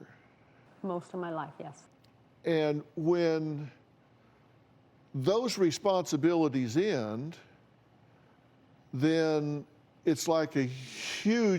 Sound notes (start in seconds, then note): none